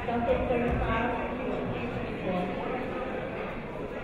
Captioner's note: chattering